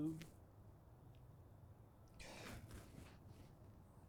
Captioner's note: sighing